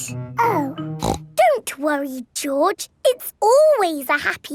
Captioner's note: snorts